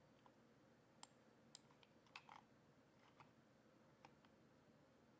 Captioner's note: mouse clicks